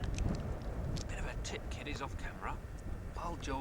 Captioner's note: whisper